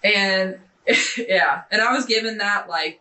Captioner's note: scoffing